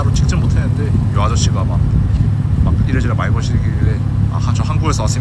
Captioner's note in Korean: 일본어로